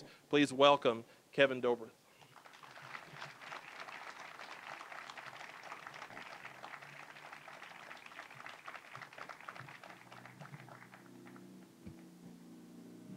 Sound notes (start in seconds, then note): 2.2 applause